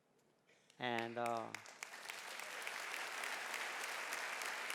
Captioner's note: audience applauding